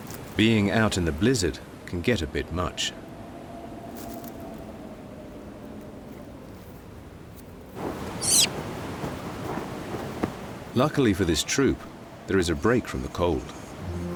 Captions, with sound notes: Being out in the blizzard can get a bit much. [macaque screeches] Luckily for this troop, there is a break from the cold.